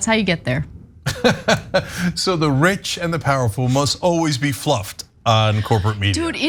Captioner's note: laugh